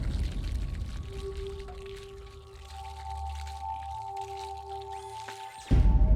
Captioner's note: chilling beat; water running; soft ominous music